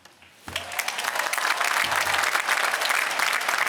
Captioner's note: applause